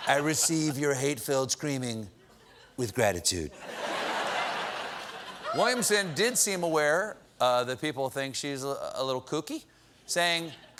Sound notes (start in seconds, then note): 3.6 laughter